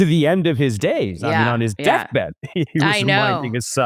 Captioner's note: laughs